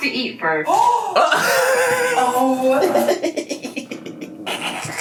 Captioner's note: laughs